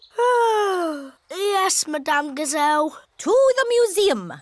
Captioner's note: yawns